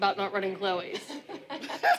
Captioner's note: laughter